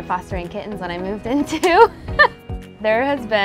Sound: laughs

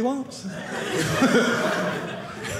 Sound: audience laughing

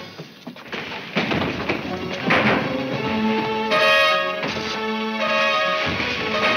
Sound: gun fires; suspenseful music

